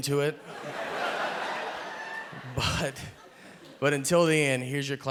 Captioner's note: audience laughing